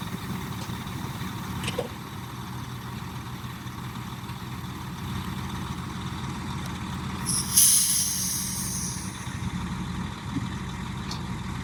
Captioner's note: engine noise